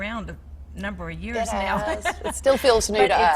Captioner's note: laughing